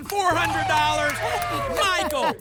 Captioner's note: applause and cheering